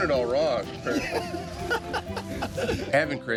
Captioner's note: laughing